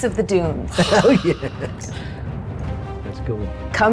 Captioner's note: chuckles